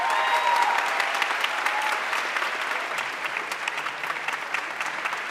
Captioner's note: audience cheering and applauding